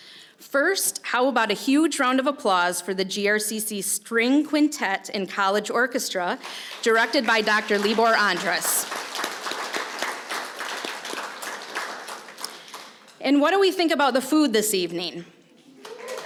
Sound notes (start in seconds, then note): 9.6 applause; 15.8 applause